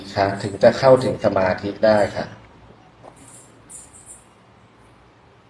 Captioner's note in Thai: เสียงสูดหายใจ